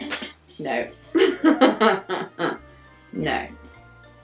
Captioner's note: laughing